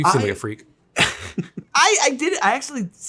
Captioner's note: chuckles